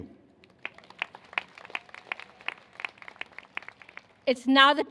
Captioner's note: applause